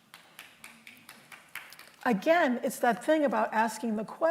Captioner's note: applause